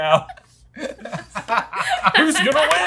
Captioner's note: laughing